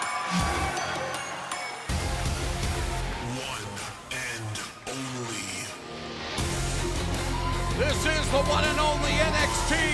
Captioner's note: crowd cheering